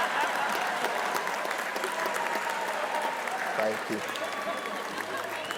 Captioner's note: crowd laughing and clapping